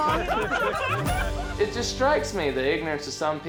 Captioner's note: all laughing